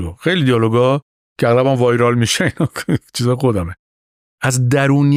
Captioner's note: laughs